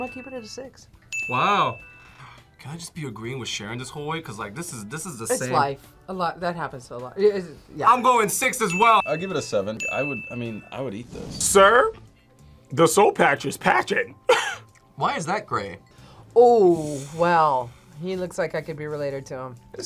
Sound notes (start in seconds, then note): 14.6 laughs